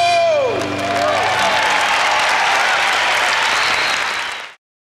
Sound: audience applauding and cheering

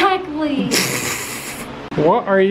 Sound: laughs

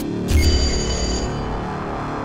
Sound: phone ringing

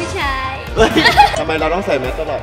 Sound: laughs

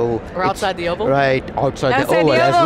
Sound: laughs

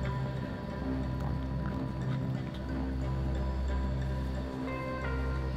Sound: crickets chirping

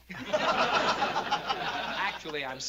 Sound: laughter

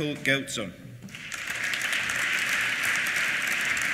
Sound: applause

